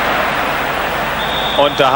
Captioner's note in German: jubel